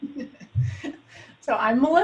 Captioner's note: laughs